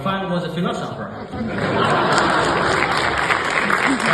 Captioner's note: clapping